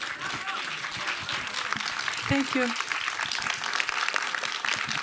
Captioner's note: applause